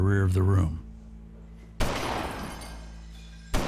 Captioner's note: gunshots